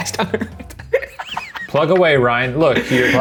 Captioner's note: laughs